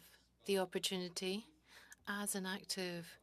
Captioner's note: speaking French